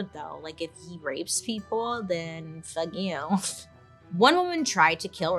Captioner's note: scoffs